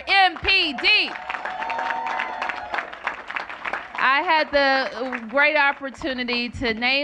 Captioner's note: cheers and applause